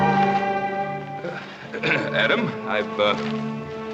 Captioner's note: clearing throat